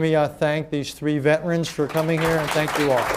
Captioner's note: applause